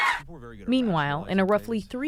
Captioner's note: cheering